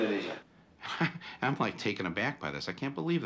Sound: laughs

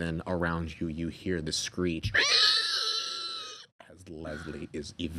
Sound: screeching

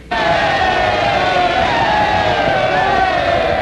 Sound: roar from the crowd

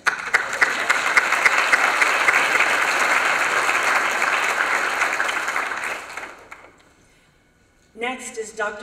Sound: applause

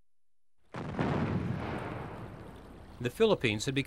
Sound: explosion

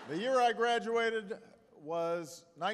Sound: laughter

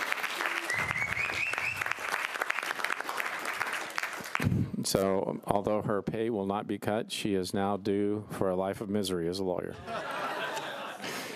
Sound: applause

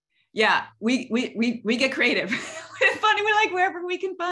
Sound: laughs

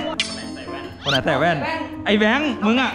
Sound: pat

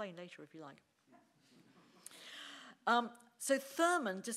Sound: audience laughing

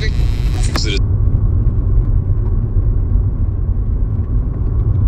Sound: radio turning off

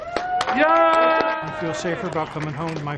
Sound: all clapping and cheering

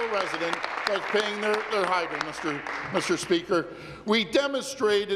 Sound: applause

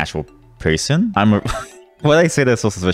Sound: laughs

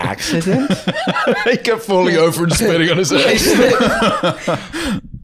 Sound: laughing

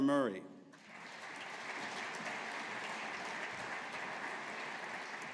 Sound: audience applauding

